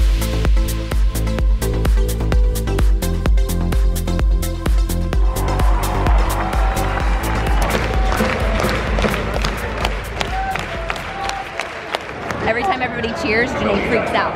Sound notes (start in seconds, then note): 0.1 uptempo electronic music; 5.2 cheering; 8.3 clapping